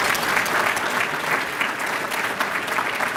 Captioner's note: applause